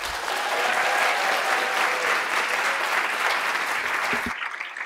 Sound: applause

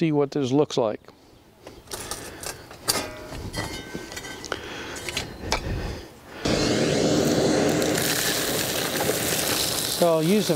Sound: sound of pulling reamer out of hole

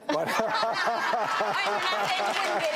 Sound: audience laughing

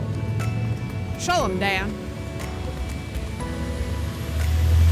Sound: engine revving

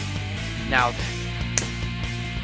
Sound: fist smack

